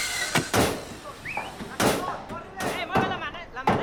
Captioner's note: hammering; yelling in Spanish